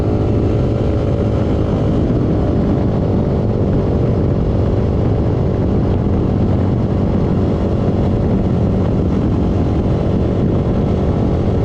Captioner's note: engine sounds from ATV